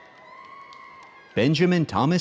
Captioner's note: audience cheering